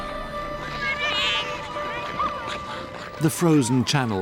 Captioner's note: children shouting